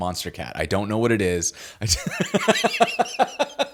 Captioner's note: laughs